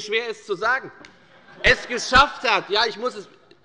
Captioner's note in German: Lachen bei Abgeordneten der LINKEN